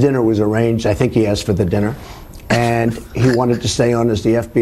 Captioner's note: laughs